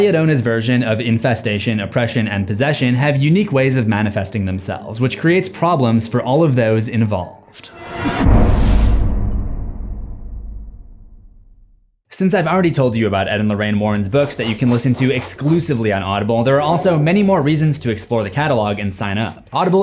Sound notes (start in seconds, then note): 7.7 impact